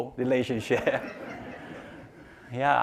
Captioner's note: laughing